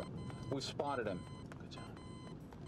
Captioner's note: whispers